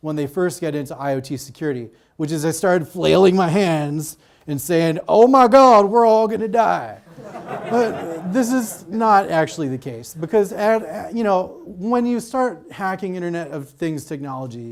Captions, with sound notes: when they first get into IoT security, which is I started flailing my hands and saying, "Oh my God, we're all gonna die!" (audience laughs) This is not actually the case, because when you start hacking Internet of Things technology